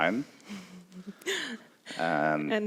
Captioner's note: laughs